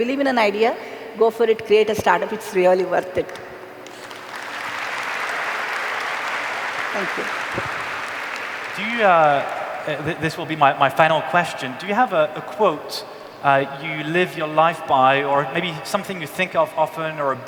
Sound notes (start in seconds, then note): 8.4 applause